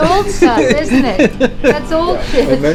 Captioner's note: host laughs